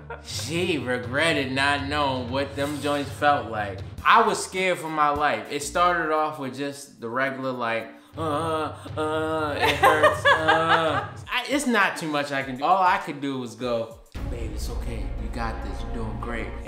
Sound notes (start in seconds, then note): 8.2 groaning; 8.2 laughing